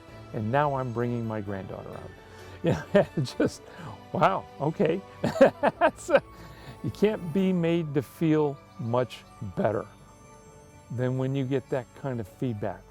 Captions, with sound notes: and now I'm bringing my granddaughter up. Just (laughs) wow, okay. (laughs) You can't be made to feel much better than when you get that kind of feedback